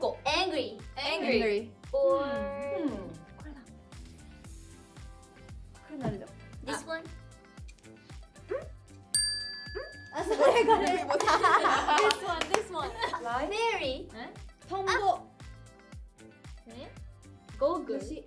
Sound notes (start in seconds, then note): 14.8 speaking Korean